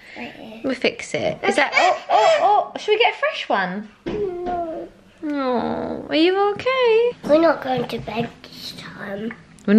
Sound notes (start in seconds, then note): 1.9 shouts